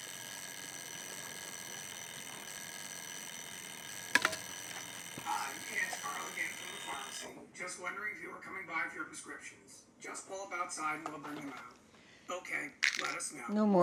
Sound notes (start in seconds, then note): 0.0 alarm ringing